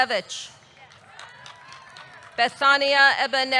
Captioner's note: audience clapping; audience cheering